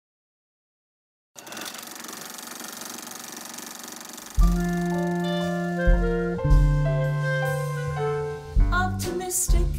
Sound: old projector starting and mellow music

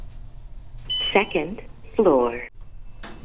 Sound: elevator Voice

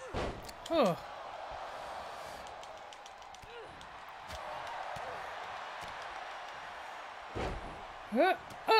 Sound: applause

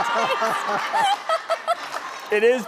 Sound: laughing; laughs

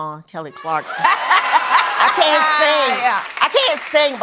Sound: laughing

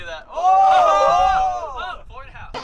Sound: people cheering

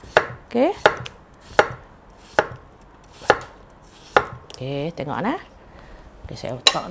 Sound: chopping potatoes

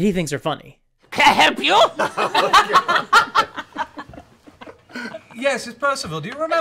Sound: laughter

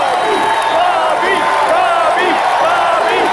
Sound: chants continue

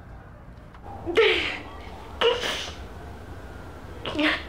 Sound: crying

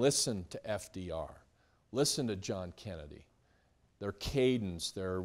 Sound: none

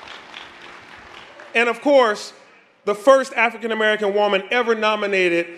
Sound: applause

